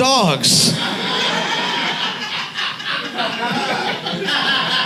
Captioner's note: audience laughs